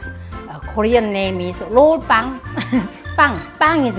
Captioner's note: laughs